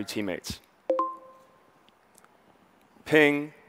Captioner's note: notification dings